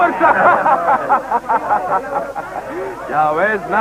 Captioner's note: laughs